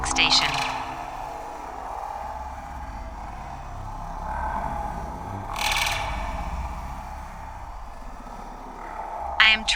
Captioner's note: alien sounds